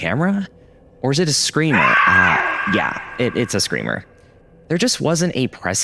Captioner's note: ghost screams